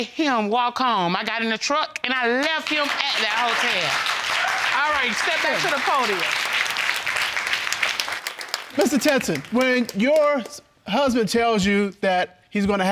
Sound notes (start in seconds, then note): 4.6 audience clapping